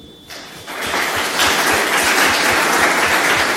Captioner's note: applause